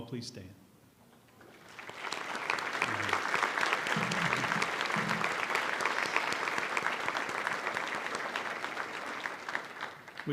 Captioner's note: applause